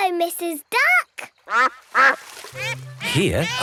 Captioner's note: quacks